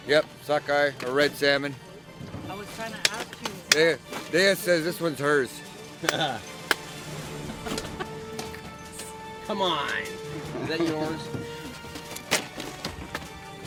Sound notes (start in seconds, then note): 7.0 laughs